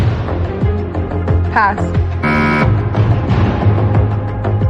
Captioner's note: buzzer sounds